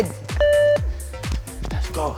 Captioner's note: beep